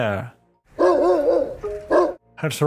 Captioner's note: rooster barking